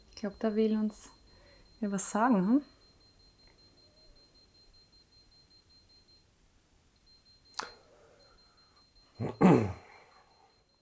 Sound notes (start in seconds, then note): 3.4 EMF Meter beeping in the background